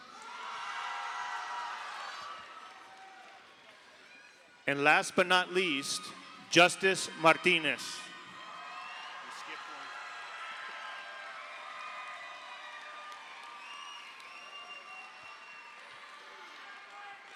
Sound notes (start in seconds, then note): 0.2 audience applauds; 0.2 audience cheers; 12.0 audience cheers